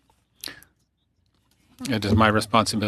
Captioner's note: speaking French